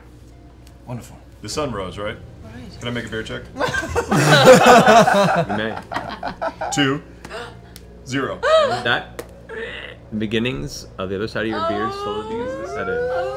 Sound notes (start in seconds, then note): 3.6 laughter; 9.6 creak